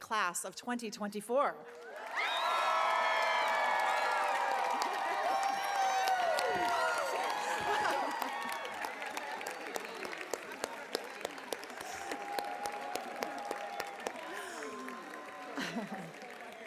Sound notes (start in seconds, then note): 1.7 cheering; 3.8 applause